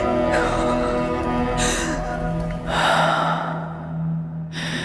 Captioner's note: loud gasping